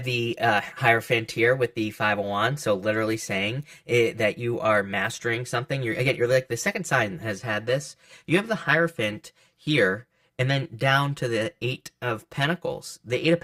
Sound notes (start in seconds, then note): 6.3 stammers